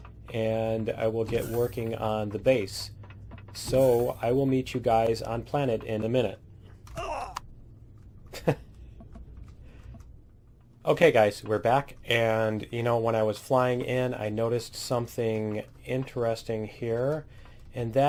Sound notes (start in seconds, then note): 8.3 laughs